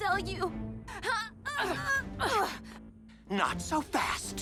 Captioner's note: both grunts